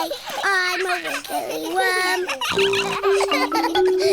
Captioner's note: all laughing; snorts